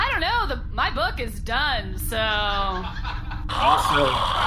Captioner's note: Nermut snores loudly